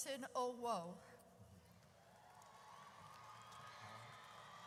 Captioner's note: audience cheers